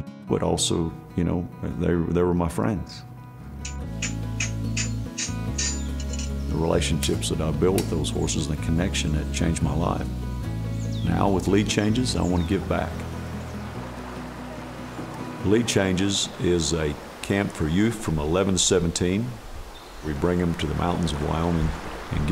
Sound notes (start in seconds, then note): 3.6 hammer clinking; 13.3 gentle acoustic music